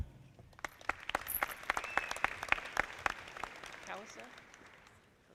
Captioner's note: audience clapping